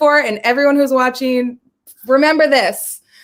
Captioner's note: none